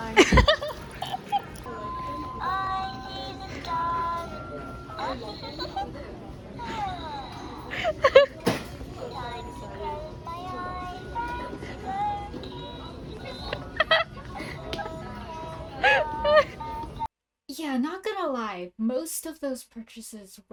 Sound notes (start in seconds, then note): 0.0 laughing; 1.6 creepy singing; 7.5 muffled laughter; 8.8 creepy singing